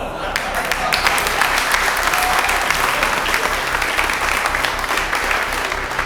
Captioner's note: adience laughing and applauding